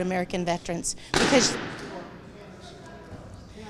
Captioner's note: object thuds; attendees chattering